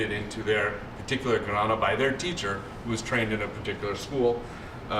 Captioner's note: non-english